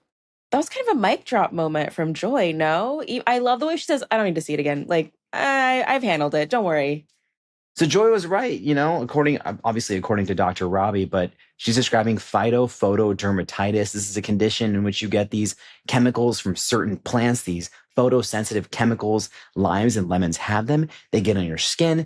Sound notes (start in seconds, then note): none